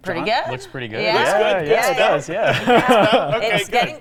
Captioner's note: laughs